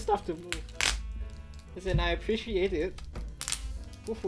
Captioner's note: tape squeaks